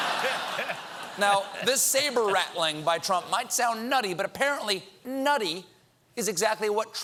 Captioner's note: laughter